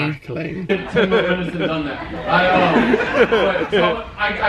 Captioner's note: laughs